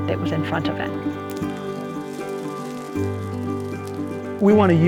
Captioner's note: fire sizzling